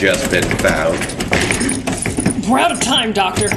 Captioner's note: doorknob Violently Rattling